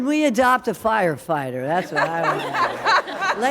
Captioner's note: laughter